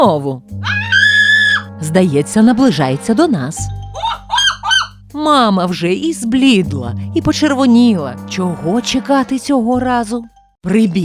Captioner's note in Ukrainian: кричить Блимчик; кричить Блимчик